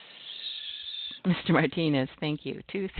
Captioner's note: chuckling